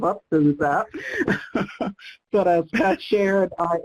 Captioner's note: laughs